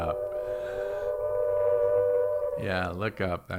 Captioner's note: alarm blaring